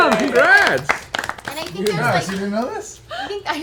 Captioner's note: cheering